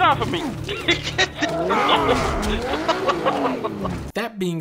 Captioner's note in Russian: смеется